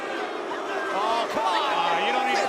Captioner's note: crowd cheering